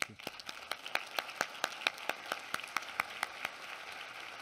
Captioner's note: applause